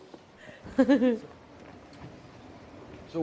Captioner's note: laughter; the investigators burst out laughing